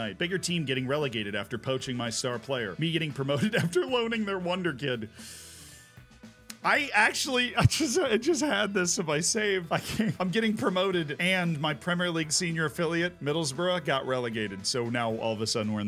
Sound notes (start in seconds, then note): 3.5 laughs; 5.1 inhales; 9.7 laughs